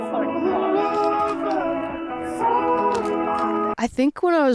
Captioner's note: logo crackles